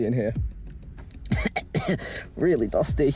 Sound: coughs

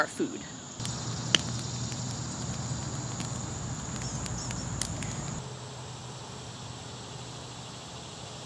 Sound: sparkling sound of bonfire

